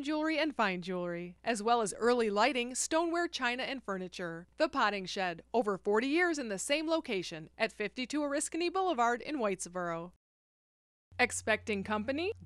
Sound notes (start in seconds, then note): none